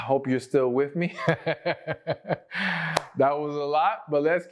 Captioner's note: laughter